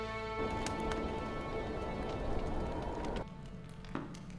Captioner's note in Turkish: Rüzgâr sesi